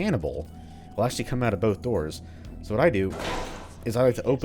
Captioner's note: doors open